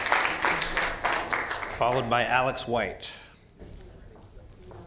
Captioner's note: applause